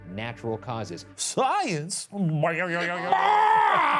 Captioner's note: throat gurgles